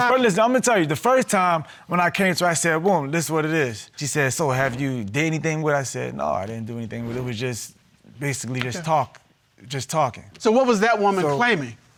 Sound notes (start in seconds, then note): none